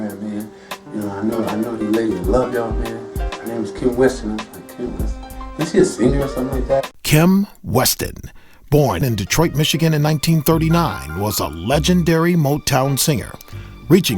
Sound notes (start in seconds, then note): 7.0 voiceover